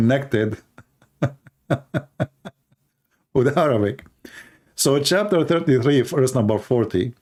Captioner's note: Ketawa